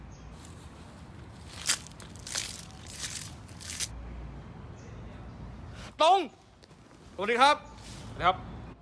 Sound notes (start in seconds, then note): 0.3 leaves being crushed; 1.4 heavy stepping sound